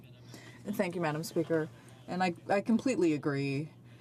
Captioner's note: speaking French